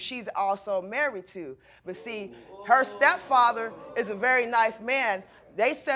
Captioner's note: audience exclaims